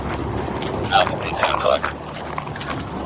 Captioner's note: radio chatter